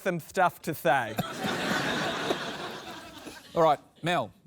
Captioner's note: laughter